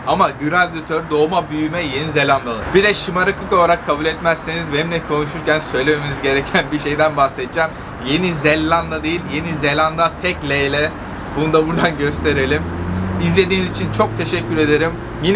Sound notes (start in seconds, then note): 10.2 in Turkish